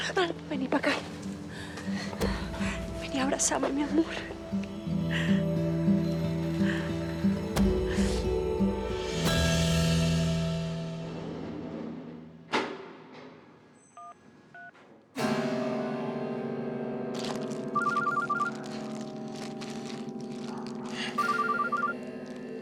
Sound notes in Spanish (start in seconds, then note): 16.2 sonido al discar; 21.2 suena el teléfono